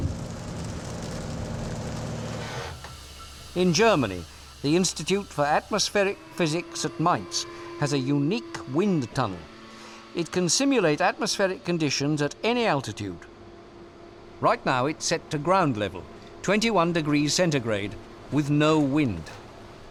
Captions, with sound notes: In Germany, the Institute for Atmospheric Physics at Mainz has a unique wind tunnel. It can simulate atmospheric conditions at any altitude. [generators running] Right now it's set to ground level, 70 degrees Fahrenheit with no wind.